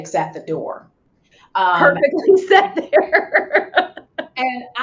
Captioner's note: laughs